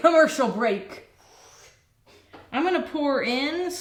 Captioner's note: whooshing air